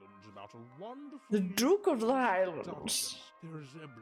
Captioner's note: imitating posh accent